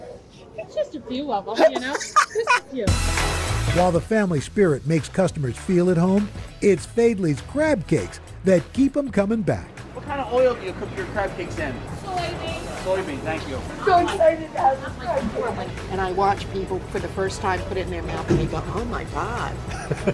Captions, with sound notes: - It's just a few of them, you know? (laughter) - While the family spirit makes customers feel at home, it's Faidley's crab cakes that keep them coming back. - What kind of oil do you cook your crab cakes in? - Soy bean. - Soy bean. Thank you. - And I watch people for the first time put it in their mouth and they go, oh, my God.